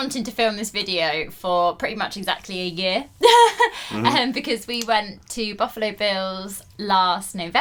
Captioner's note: laughs